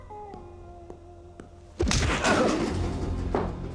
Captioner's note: punch, groan